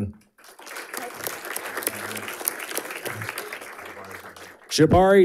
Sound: audience applauding

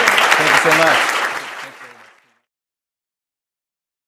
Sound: applause

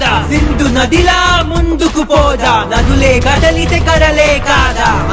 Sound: none

